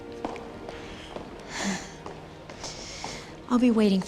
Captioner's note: sighs